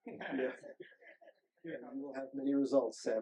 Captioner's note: group laughing